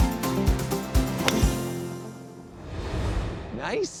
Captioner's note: uplifting upbeat music; golf ball clacking